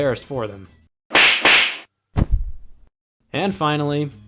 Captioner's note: slaps